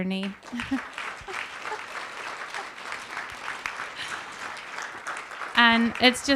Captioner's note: applause